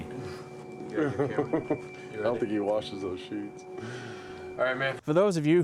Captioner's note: laugh